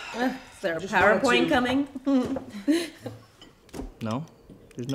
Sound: chuckling

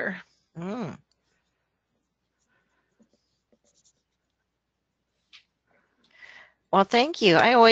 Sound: silence

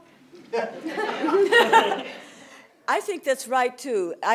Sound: laughter

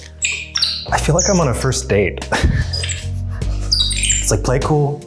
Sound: laughs

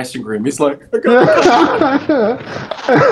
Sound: imitates sahr crying

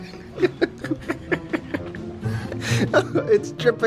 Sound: laughing

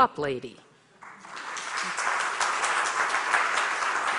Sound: audience applauds

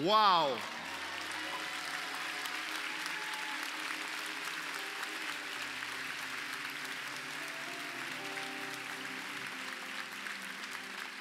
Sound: applause

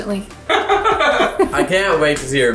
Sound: laugh

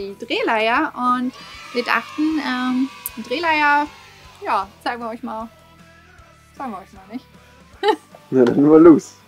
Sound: laughs

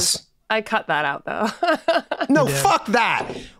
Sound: laughs

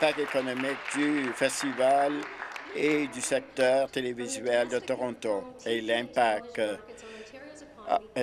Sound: applause

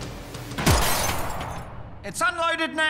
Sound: glass shattering

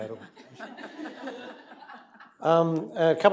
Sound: laughter

